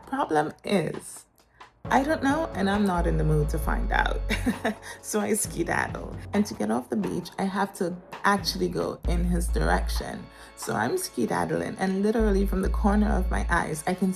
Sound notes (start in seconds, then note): 4.3 chuckles